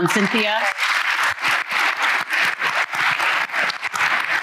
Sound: applause

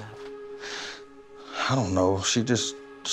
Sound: harsh sigh

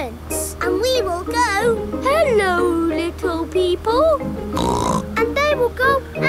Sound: snorts

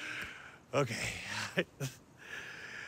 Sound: laughing; breathing heavily

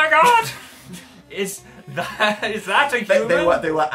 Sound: laughing

